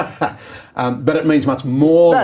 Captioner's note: laughing